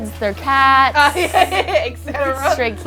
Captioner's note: laughing